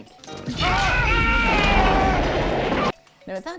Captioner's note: yelling